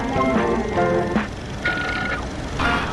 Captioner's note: upbeat music; whirring